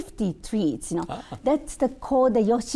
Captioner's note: chuckling